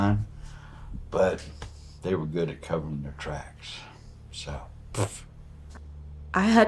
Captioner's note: scoffing